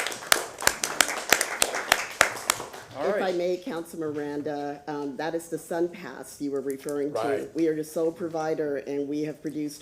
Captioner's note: applause